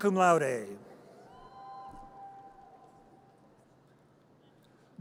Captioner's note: audience cheers